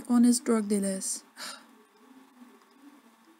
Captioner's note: sigh